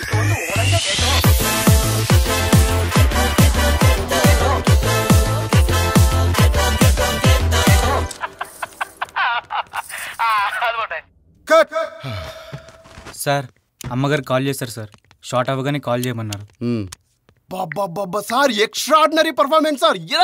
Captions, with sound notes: (Laughs) That's it. Cut! Sir, madam called for you. She asked you to call her back once the shot is done. Oh God, sir! Extraordinary performance!